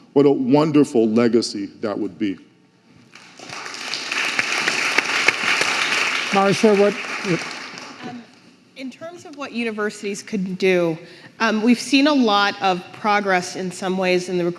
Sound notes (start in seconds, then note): 3.1 audience applauding